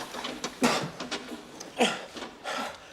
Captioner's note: coughing